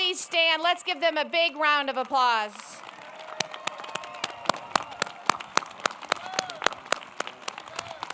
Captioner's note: applause